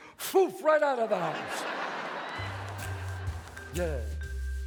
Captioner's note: audience laughs; jazz music plays